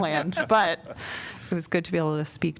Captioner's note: laughter